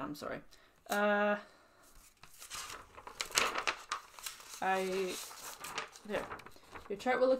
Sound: paper sliding sound; paper flips

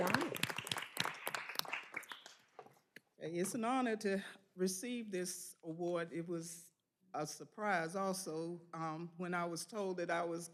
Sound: applause

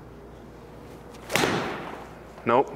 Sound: ball thuds

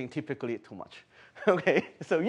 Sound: chuckle

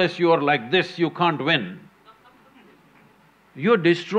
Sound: one participant laughs

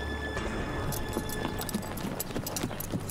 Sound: horse trotting

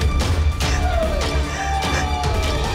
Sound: crying

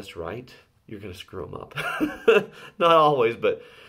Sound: laughs

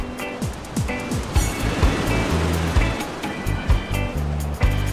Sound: waves crashing

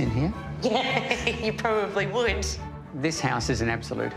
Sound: laughs

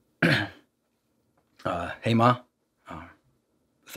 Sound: clears throat

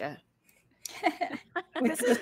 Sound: players laughing

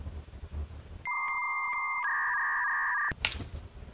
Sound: dial up internet sound

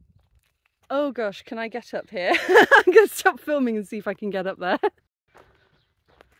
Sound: laughing

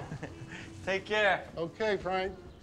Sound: laughs

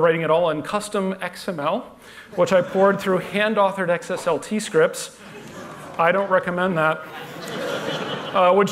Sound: laughter

